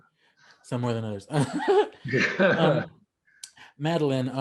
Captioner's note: laughs